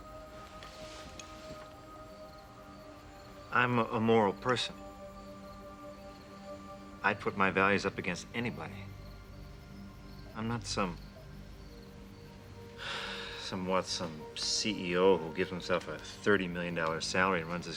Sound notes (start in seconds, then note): 12.7 sighs